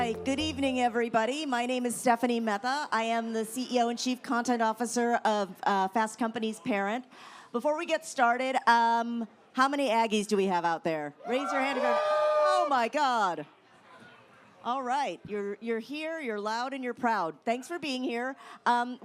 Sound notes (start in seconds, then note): 11.2 crowd